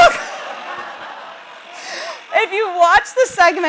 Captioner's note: audience laughs